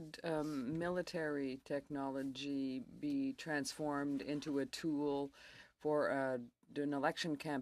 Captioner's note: speaking in french